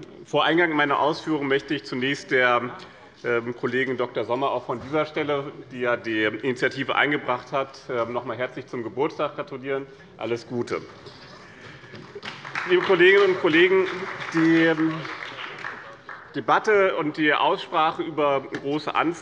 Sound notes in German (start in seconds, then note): 11.5 Beifall